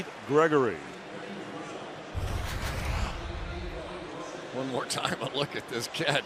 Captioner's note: pa announcement